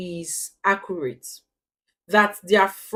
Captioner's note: paause